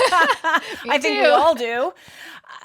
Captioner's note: laugh